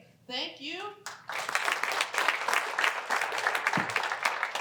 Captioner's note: applause